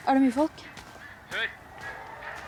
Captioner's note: cheering continues